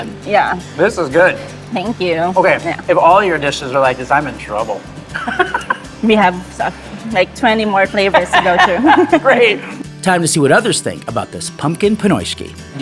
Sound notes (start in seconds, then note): 5.1 chuckles; 7.9 laughs